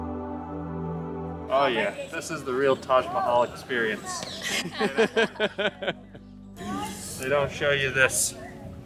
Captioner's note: laughter